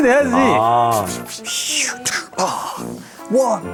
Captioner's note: sounds of a fierce match